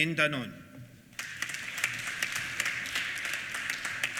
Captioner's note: applause